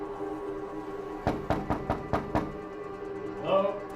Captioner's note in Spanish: Toques en la puerta